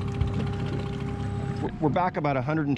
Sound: winch motor running

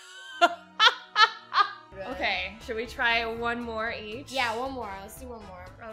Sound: laughs

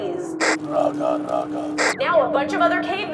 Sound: caveman grunting

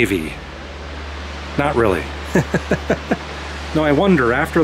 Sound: laughter

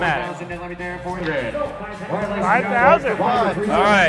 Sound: auctioneer drawling

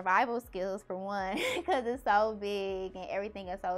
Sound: laughs

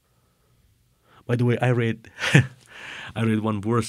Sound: chuckling

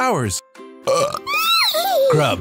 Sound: Unicorse burps

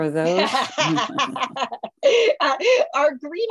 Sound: laughter

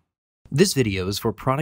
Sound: voiceover

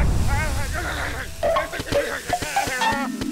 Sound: groaning

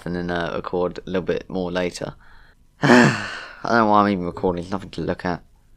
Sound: sigh

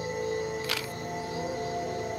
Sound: camera clicks

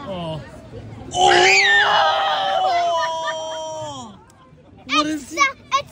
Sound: shouting in background

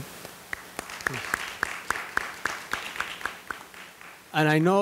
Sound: all applauding

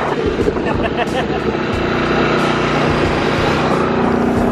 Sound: laughing

